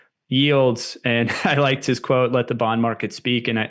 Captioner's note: chuckles